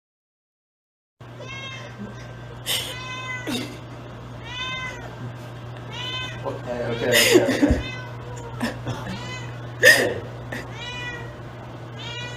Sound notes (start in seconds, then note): 1.4 cat meows insistently; 2.6 cameraperson laughs; 4.4 meow!